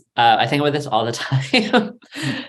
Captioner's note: laughs